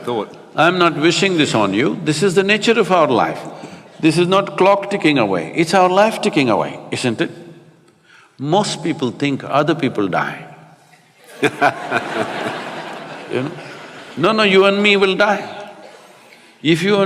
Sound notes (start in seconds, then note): 11.2 laughter